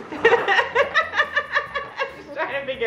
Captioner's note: laughing